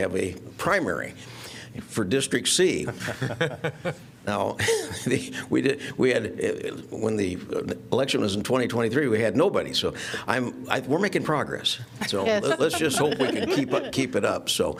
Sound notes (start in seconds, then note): 2.9 laughter